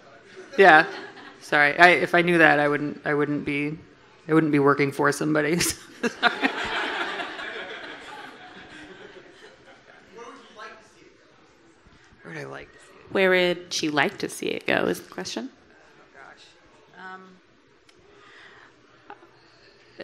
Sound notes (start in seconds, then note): 6.0 everyone laughing